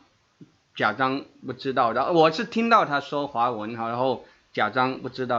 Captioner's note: in Mandarin